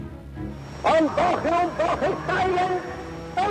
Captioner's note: speaking German